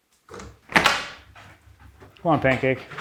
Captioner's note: door clicks